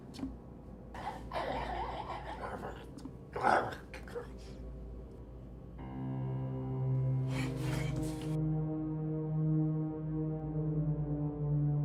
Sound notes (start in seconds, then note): 0.9 grunts; 6.5 creepy music